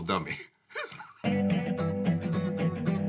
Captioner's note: laughs; upbeat jazzy music